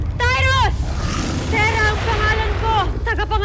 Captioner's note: screeching roar